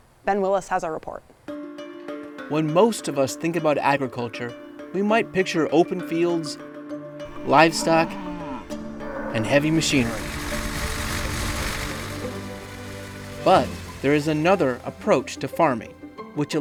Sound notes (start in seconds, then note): 10.5 combine harvester buzzing; 10.5 gentle music